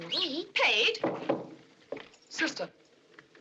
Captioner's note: knock At Door